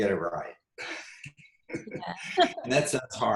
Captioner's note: laughs